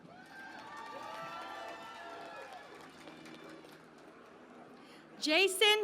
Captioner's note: cheering and Applause